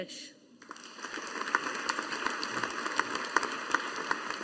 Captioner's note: audience applauding